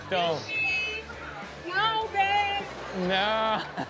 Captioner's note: shouting